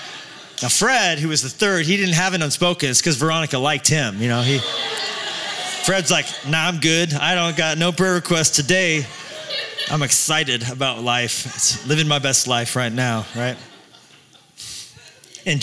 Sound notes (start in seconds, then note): 0.0 laughter; 4.4 laughter